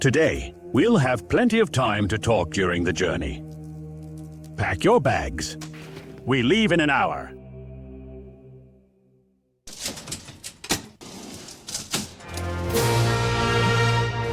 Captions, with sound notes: Today. We'll have plenty of time to talk during the journey. Pack your bags. We leave in an hour. (Elevator door closing)